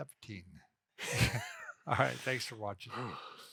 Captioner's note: both laughing